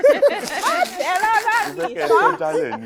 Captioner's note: everyone laughs